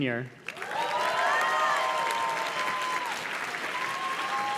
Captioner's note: audience cheers and claps